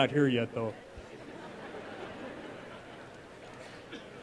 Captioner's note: audience laughs